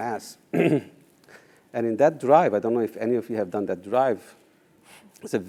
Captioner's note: cough